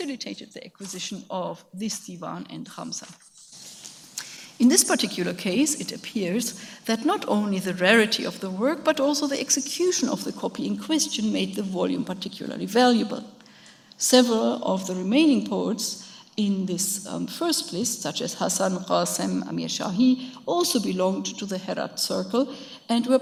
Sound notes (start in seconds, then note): 17.9 speaks in a foreign language